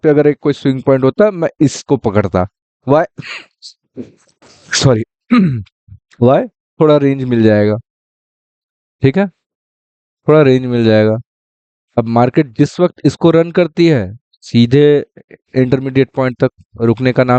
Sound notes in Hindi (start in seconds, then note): 5.3 गला साफ़ करने की आवाज़